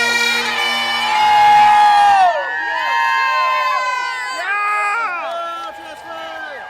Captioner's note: cheering and shouting; whooping